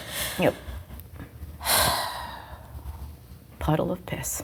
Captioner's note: sighs